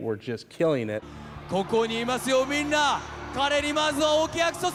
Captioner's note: speaking japanese